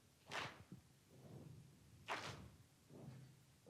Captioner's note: clap; stomp; clap